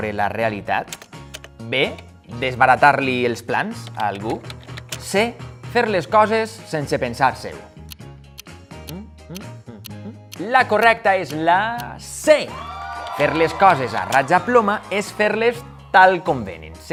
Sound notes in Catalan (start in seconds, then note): 8.4 Tic-tac